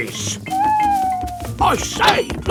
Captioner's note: owl hooting